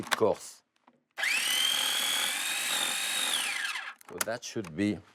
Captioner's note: processor whirring